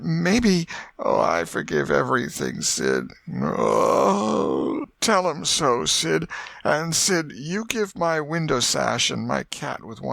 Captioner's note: groan